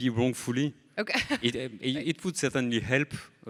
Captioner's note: laughs